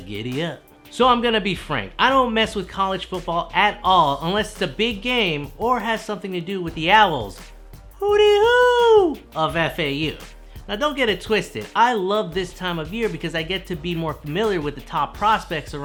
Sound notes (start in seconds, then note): 8.0 hooting